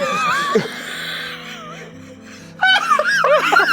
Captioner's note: everyone laughs